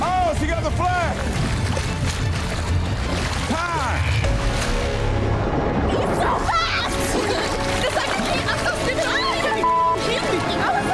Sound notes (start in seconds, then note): 1.5 dramatic music; 1.5 water splashing; 7.0 laughing; 7.3 dramatic music; 9.4 water splashing